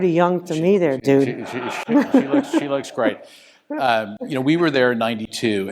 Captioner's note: laugh